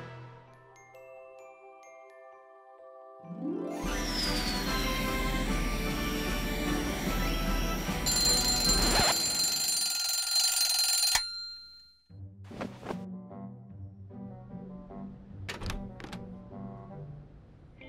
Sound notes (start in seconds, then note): 3.7 air blows; 7.9 alarm clock rings